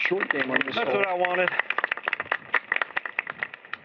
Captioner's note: applause